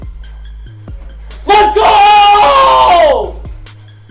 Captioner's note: yelling